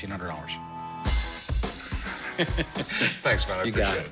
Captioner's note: laughs